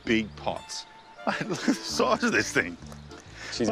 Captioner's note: laughs